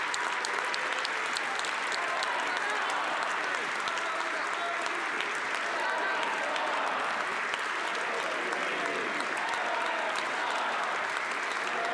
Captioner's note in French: applaudissements